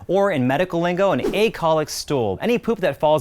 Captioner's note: air whooshing